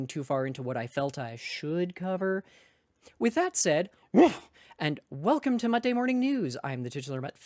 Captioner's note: woof!